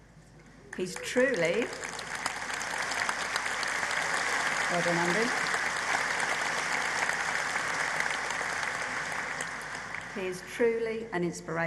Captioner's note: applause